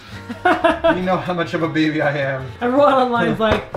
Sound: laughs

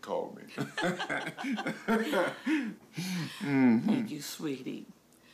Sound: both laughing

